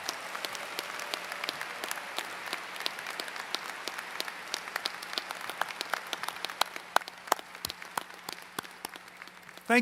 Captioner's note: applause